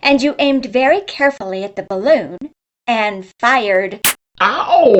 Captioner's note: pop